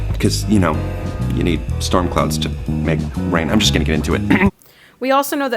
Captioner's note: clears throat